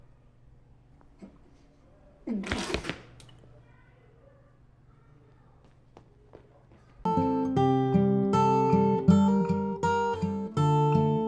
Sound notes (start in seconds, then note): 2.2 boy gagging; 7.0 classical guitar music